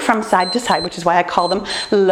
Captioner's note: timer beeps